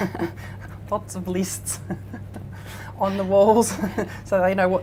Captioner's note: laughing; laughs